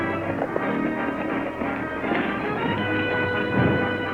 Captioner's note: hooves clatter